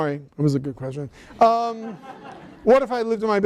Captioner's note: laughter